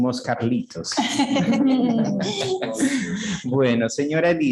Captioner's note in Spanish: risas